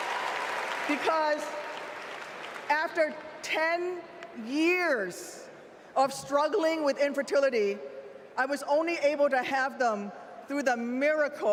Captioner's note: applause